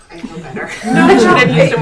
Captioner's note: laughing